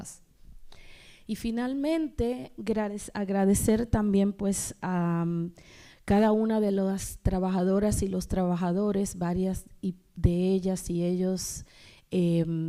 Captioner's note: speaking spanish